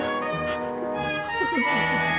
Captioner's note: Gwen sobbing